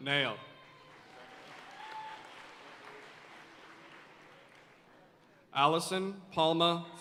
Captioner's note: audience cheering and applauding